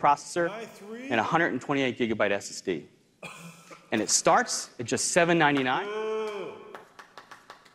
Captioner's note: coughs